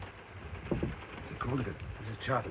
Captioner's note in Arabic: يطرق بلطف